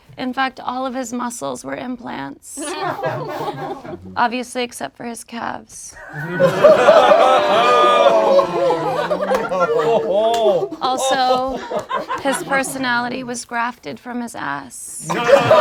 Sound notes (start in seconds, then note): 2.6 group laughs; 6.1 group groans; 15.0 group laughs